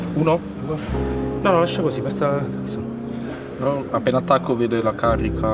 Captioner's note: speaking Italian